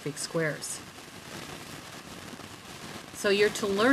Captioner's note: crackling from video